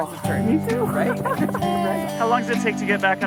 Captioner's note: laughs